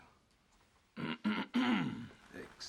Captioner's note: clears his throat